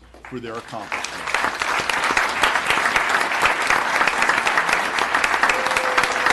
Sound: applause

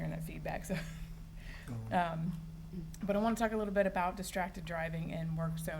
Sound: giggles

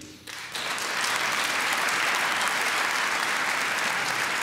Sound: applause

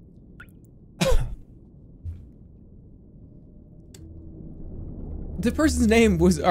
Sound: cough

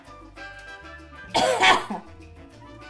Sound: coughs in Abuela Spanish

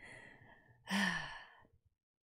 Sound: sighs

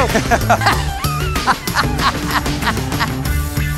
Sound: laughs

